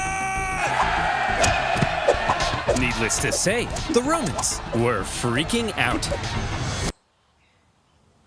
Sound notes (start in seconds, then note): 0.1 Romans cheering; 0.6 blows thudding